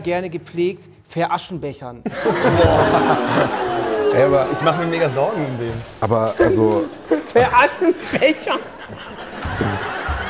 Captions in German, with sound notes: (Lachen, Uh-Rufe) Hä? Aber ich mach mir Megasorgen um den. Aber ... also ... - (lacht:) Veraschenbechern ... (Gelächter)